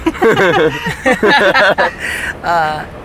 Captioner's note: laughs